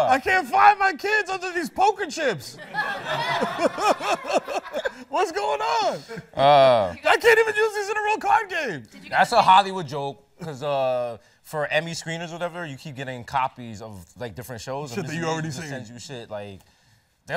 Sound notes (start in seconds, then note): 2.6 laughs